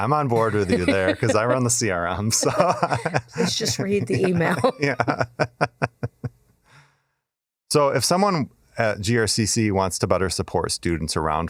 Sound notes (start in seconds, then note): 4.9 laughing